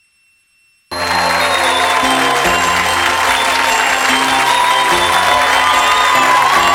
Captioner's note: audience cheering; holiday music